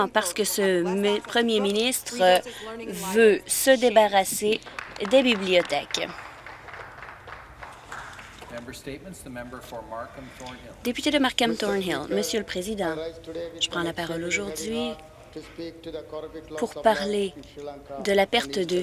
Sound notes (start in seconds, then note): 9.4 applause